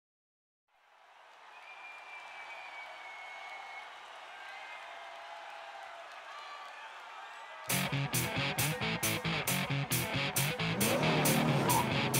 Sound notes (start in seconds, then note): 1.9 crowd cheering; 7.7 intense heavy metal music